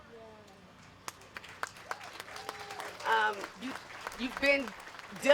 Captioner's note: applause